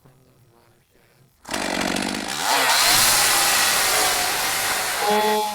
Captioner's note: chain saw whines